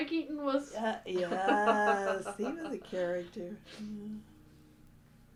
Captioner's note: laughter